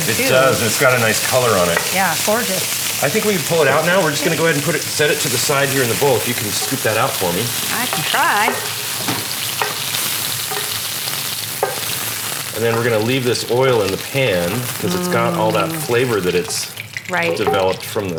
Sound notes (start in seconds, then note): 9.2 sizzling